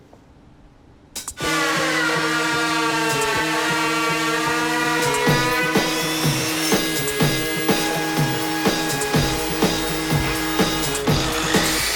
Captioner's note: saws whirring & buzzing